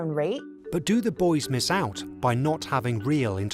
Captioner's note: voiceover